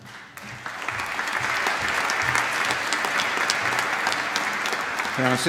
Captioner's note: applause